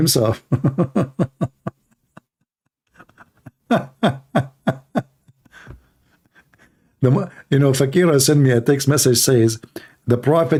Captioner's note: Ketawa